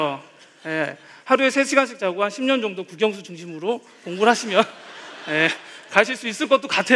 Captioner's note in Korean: 웃음